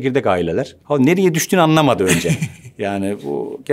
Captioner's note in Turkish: Güldüler